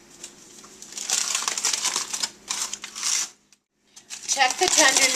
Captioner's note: rustling of opening the foil